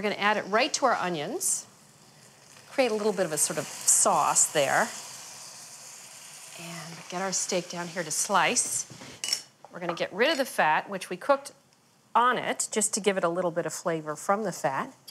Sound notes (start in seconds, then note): 5.0 onions sizzling